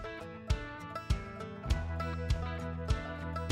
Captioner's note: footsteps